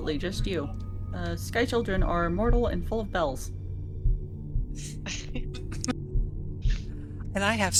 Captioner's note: laughter